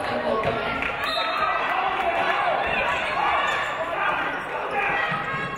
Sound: referee blows whistle

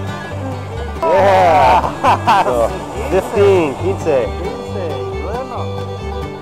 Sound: laughter

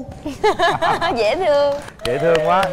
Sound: laughing

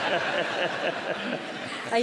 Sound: laughter

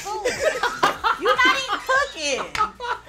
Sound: laughing

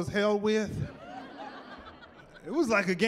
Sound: laughing

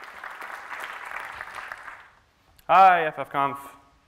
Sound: applause

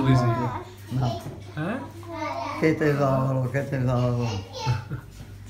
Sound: foreign language

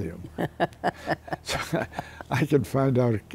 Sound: laughter

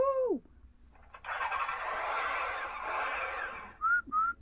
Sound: engine starting; whistling!

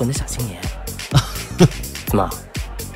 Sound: laughs

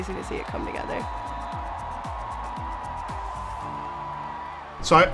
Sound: crowd cheering

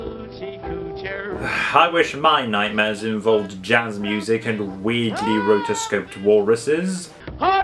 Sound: sighs

